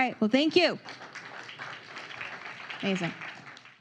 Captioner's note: applause